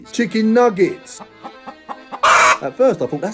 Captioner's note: chicken clucking